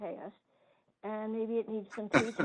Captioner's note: laughs